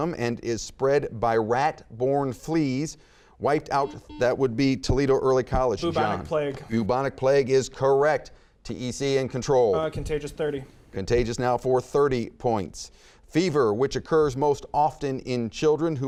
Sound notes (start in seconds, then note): 3.8 buzzer beeping